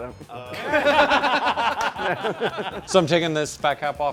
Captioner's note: laughter